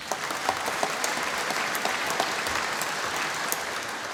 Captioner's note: applause